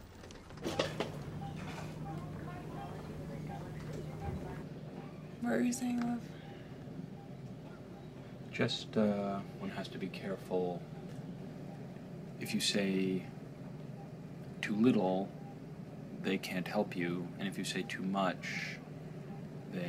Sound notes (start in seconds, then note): 0.6 machines beeping